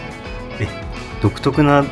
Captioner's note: surprised